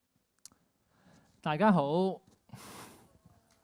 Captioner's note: Cantonese